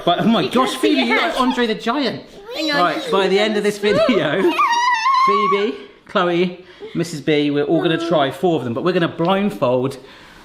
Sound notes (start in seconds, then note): 4.4 screams